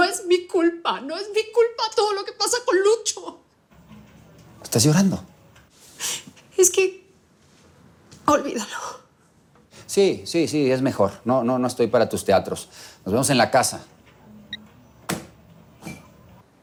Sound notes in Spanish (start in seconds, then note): none